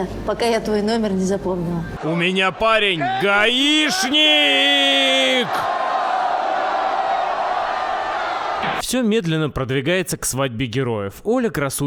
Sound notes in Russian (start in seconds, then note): 5.6 приветственные возгласы; 8.6 помехи